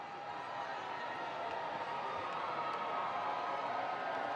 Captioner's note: people cheering